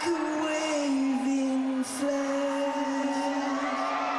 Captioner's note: loud cheering